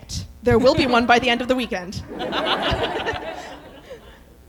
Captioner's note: laughter